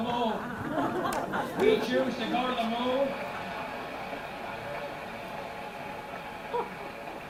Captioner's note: applause